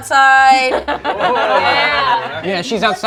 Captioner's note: group laughs